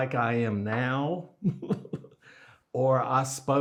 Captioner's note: laughs